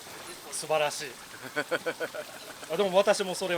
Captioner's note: laughs